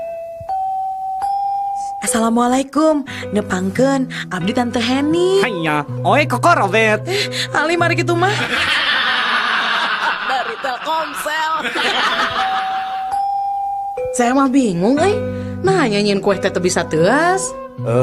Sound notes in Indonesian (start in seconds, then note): 12.6 tertawa